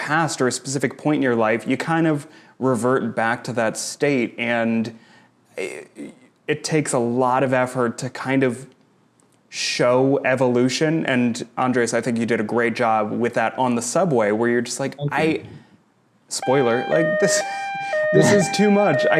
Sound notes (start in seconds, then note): 16.4 siren blaring